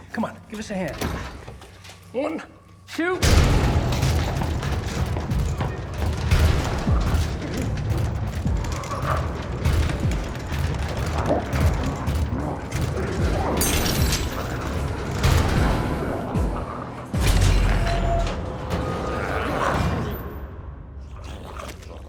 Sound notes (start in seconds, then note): 3.7 door rattles; 3.7 dramatic music; 9.6 door rattling; 9.6 growling echoes faintly; 17.3 dramatic music continues; 21.0 zombie growling